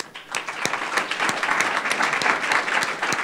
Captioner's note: applause